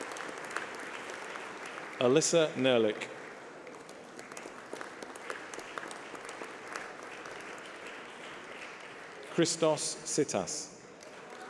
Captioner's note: applause